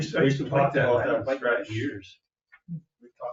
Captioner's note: people chattering